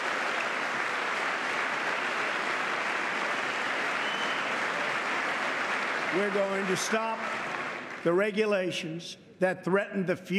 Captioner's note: applause